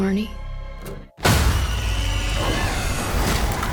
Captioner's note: high pitched screaming